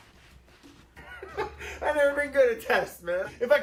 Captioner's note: laughing